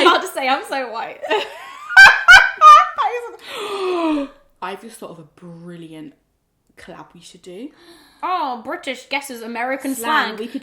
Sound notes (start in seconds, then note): 1.8 laughs; 3.4 gasps